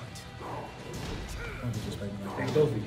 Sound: laugh

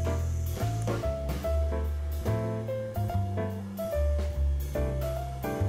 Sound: awkward and new footsteps

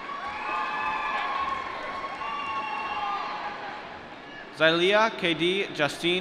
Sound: applause

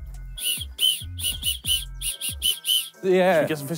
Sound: whistle blowing

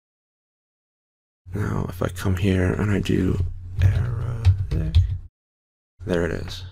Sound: typing

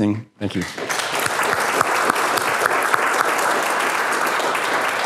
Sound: applause

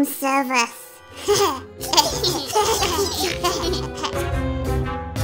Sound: giggling

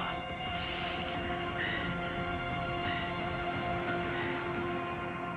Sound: breathing heavily

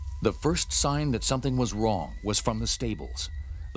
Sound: voiceover

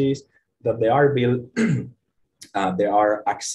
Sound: clears throat

